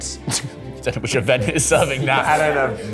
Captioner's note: chuckles